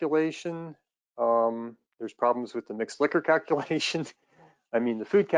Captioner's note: laughs